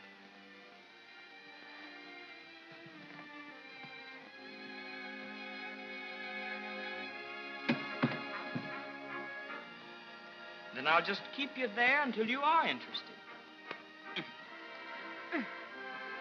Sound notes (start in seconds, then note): 0.2 soft music; 7.7 stock sets down; 15.9 soft music